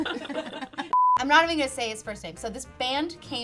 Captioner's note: all laugh; beep